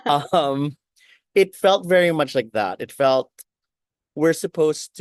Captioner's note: laughs